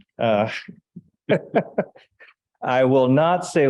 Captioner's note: laughing